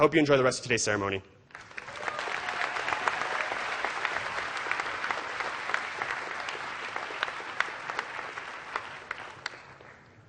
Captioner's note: applause